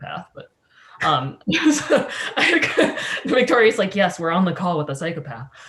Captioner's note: laughs